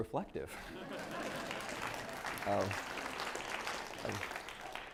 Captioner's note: applause